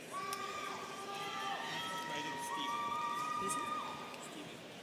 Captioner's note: students cheering